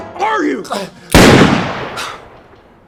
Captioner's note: choking; gun firing